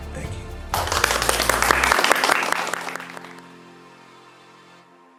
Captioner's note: audience clapping